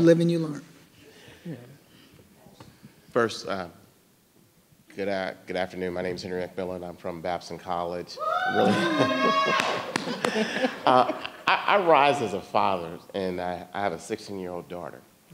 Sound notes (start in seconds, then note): 8.6 audience applauding; 8.6 audience laughing